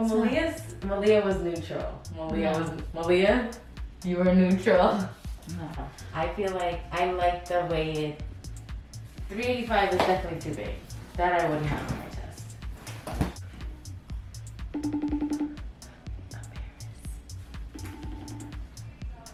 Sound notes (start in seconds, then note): 14.7 phone ringing